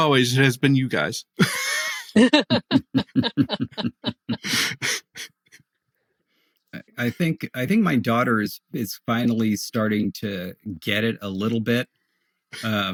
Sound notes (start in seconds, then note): 1.3 laughing